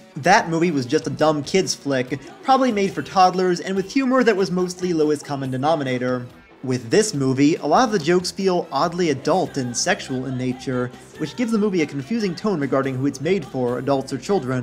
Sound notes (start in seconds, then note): none